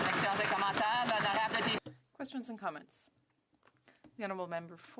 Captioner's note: some Applause